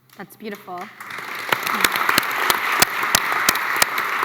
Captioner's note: applause